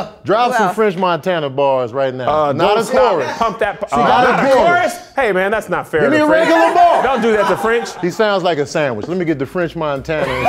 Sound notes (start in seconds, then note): 2.6 overlapping chatter